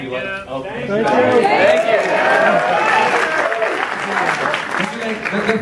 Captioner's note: cheers and applause